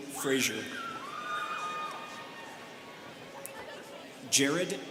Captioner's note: students cheering